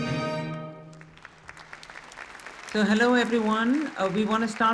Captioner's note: audience applause